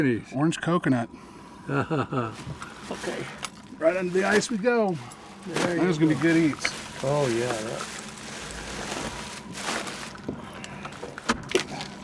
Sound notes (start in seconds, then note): 1.6 chuckling; 9.1 plastic bag rustling; 11.8 lid closing